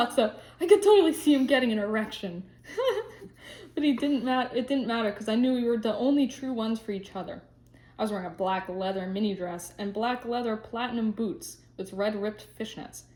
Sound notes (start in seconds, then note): 2.7 laughs